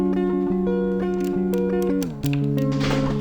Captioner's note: door buttons clicking; door slams open